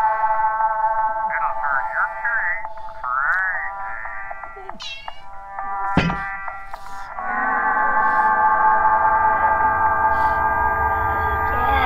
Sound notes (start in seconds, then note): 0.0 discordant music; 3.1 metal clanks; 4.5 cat meows